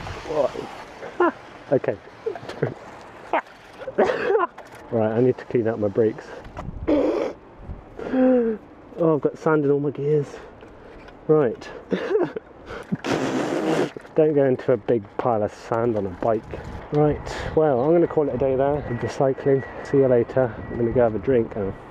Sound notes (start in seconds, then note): 0.0 imitates bike noise through sand; 6.9 sniggers; 8.0 inhales; 12.8 blows Raspberry